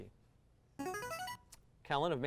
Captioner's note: buzzer